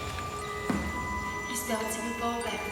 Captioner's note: soft thudding